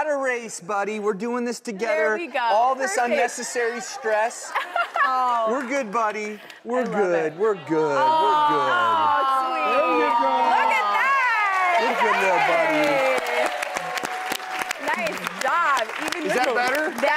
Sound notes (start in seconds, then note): 13.0 crowd cheers